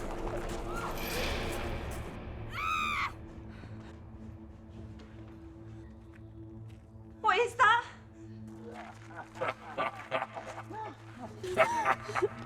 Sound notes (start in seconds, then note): 2.5 Jane screaming; 9.0 leprechaun laughing